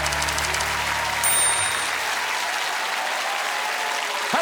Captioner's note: typewriter keys clacking; audience applauding; typewriter dinging